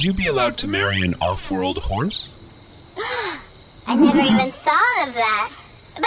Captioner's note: gasps